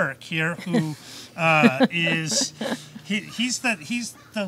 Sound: audience member laughs

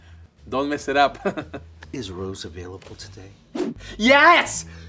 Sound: laughs

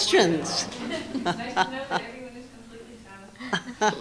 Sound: laughter

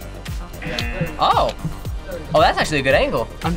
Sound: buzzer rings

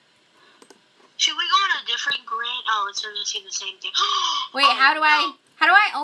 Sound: gasp

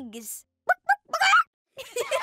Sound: clucking; laughing

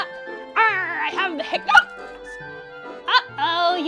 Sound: hiccups

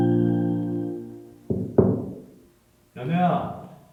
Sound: knocking sound

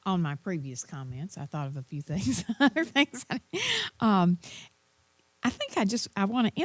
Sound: laugh

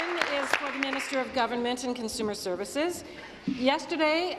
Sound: applause

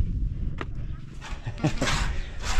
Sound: laughs

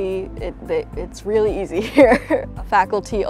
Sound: laughs

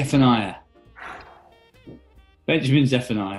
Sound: exhales

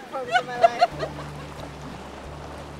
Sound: laughter

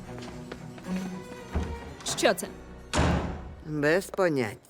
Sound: door opens and closes

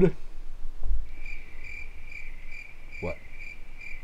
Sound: crickets chirping

